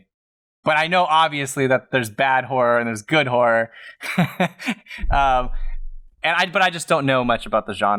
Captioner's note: laugh